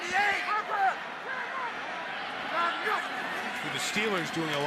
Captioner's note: football players yelling